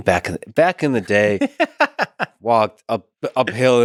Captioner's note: Tim laughs